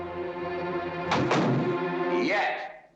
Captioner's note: door slams